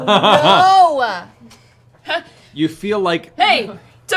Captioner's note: laughs